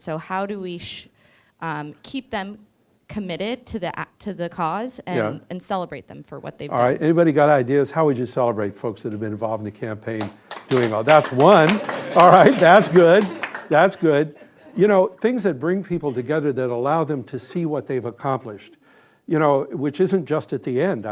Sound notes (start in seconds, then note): 10.1 audience clapping